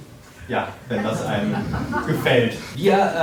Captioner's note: crowd laughing